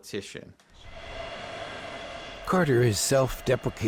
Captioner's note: airplane engines